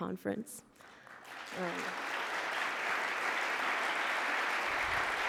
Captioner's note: audience applause